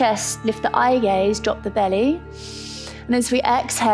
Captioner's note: inhales